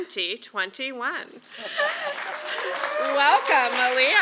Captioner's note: applause